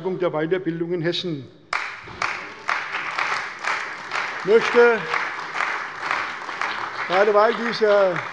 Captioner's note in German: Beifall bei der CDU und dem BÜNDNIS 90/DIE GRÜNEN